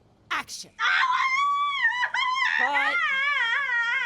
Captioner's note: vivien screaming